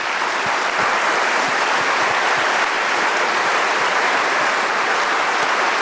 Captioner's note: applause